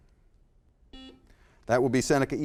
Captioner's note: buzzer